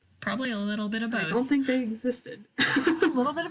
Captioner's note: laughs